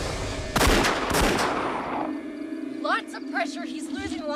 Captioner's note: gun fires